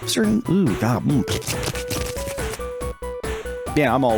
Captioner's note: spitting noises